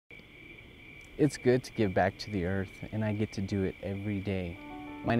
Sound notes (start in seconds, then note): 0.1 crickets chirping